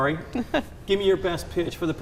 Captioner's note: chuckles